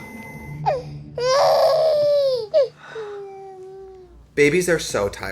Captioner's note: baby crying